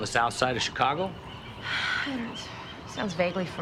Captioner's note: sighs